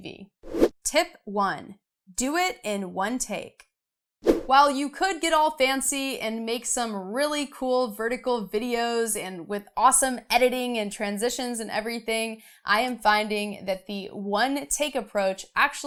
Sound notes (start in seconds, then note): 0.2 air whooshing